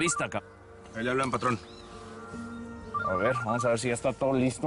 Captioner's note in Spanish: Suena el celular